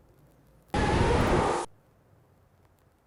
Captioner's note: monster Roar